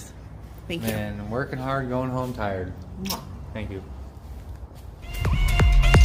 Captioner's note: mwah